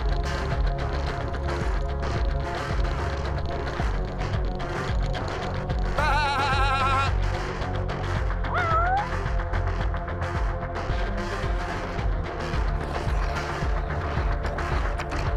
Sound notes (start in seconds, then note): 8.5 cat sounds; 12.8 slurping